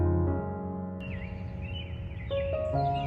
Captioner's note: birds singing in the background on a cloudy morning